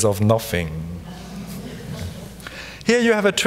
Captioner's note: audience giggles softly